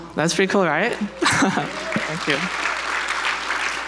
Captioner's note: audience applauds